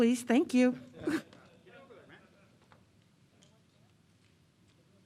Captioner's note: chattering